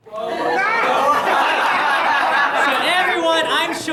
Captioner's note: audience laughter